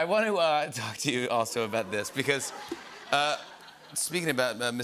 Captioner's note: laughter